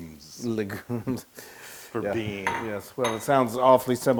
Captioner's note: laugh